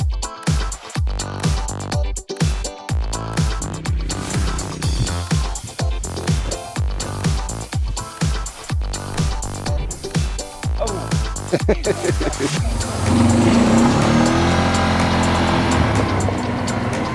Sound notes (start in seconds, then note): 11.8 laughs; 13.3 ATV revs